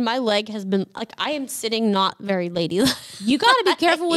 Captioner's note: laughs